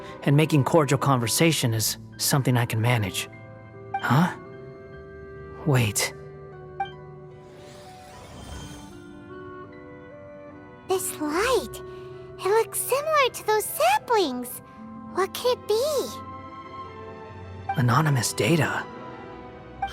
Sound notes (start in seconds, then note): none